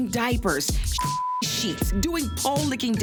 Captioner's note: beep